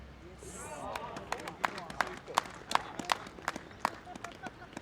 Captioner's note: polite clapping